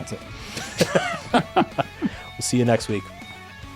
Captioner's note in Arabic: يضحك